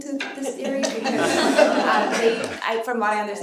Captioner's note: laughter